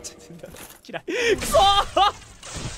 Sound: inhales

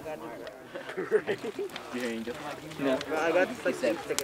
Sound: laughs

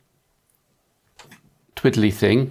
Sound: blank Audio

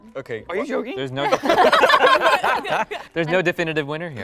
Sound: laughing

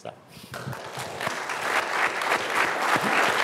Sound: applause

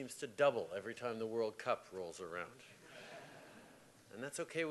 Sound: laughter

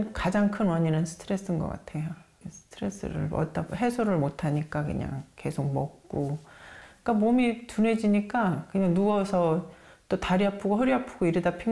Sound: voiceover

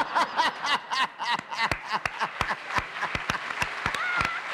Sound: laughter

